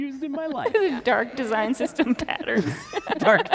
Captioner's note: laughs